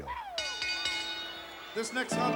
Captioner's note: bell rings